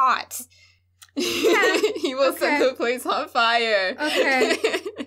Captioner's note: laughing